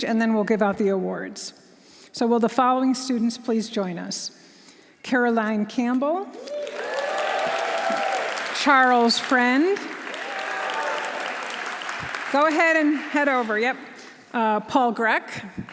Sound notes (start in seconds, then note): 6.4 audience cheering; 6.4 audience applauding; 10.0 audience cheering